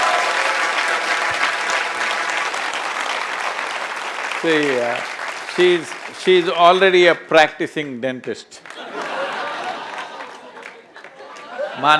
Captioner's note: laughter